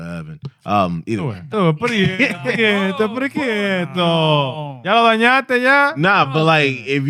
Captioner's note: speaking In Foreign Language